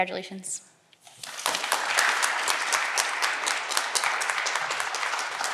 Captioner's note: audience clapping